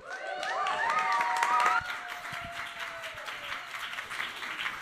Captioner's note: cheers and applause